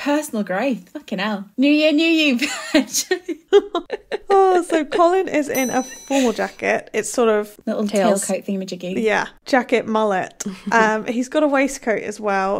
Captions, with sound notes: Personal growth, fucking hell. New year, new you, Veg. (laughing) (bell dings) - So Colin is in a formal jacket. It's sort of- - Little tail coat thingamajiggy. - Tails. - Yeah, jacket mullet. (laughing) He's got a waistcoat as well.